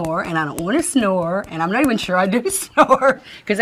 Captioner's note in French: Rires